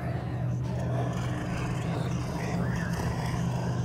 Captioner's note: growling